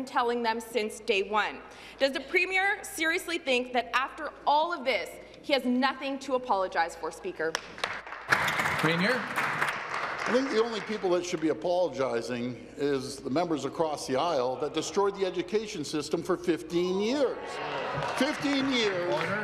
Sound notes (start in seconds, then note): 10.8 applause